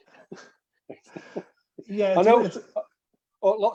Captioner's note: laughter